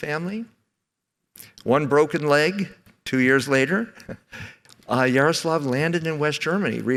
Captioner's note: chuckles